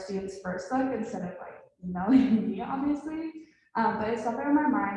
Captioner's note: laughs